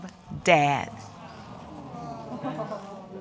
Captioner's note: audience exclaiming